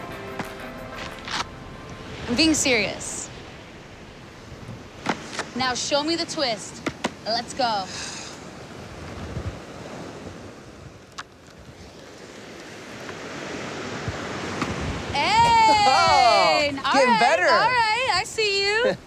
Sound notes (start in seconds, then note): 7.8 exhales; 14.8 laughs